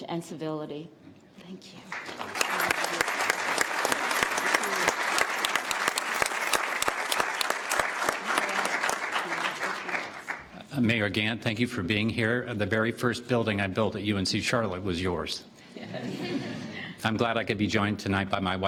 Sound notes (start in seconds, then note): 4.5 applause